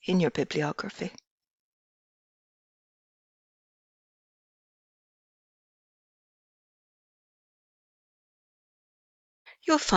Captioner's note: pause